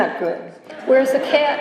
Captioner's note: laughter